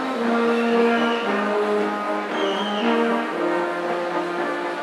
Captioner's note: attendee whistling